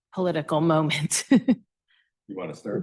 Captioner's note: laughing